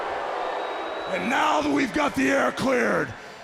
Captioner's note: crowd cheering